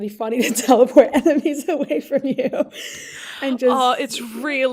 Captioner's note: laughing